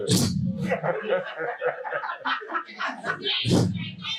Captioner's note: chuckling